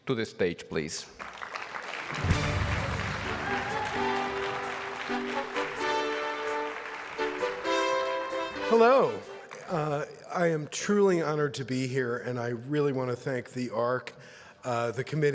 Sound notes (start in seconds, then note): 1.1 applause; 2.1 victorious music